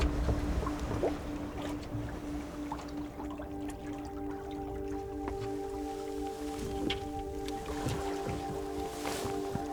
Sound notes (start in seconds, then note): 0.9 water bubbling; 4.6 calm music